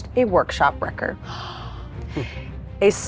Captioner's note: gasps